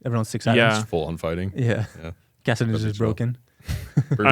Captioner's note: laughs